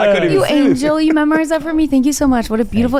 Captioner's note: laughs